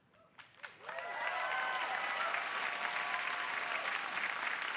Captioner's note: crowd applauding